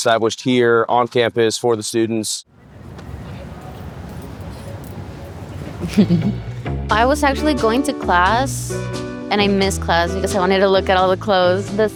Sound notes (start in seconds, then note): 4.8 chuckles